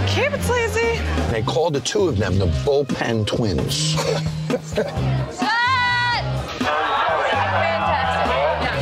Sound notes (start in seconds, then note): 3.8 laughs